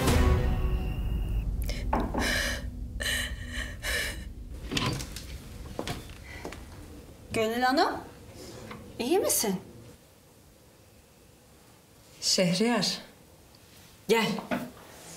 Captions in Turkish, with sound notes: (Ağlıyor) Gönül Hanım.. ..iyi misin? Şehriyar.. ..gel.